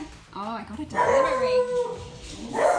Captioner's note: dog barking